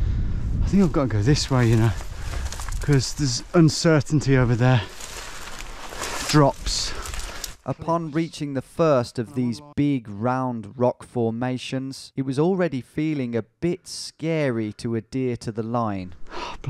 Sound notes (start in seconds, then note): 7.6 voiceover